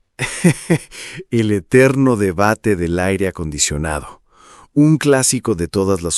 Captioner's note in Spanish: risas